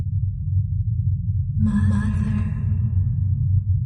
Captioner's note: echoing